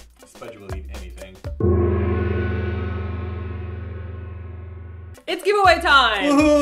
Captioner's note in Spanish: ¡gong!